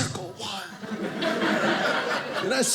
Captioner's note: audience laughing